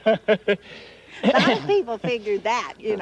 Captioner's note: chuckling